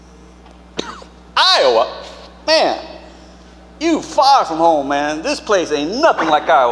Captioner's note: coughs